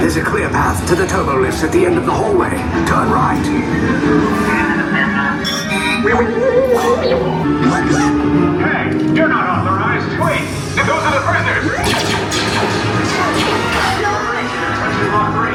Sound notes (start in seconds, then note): 4.2 droids beeping and buzzing; 12.0 blasters pew-pewing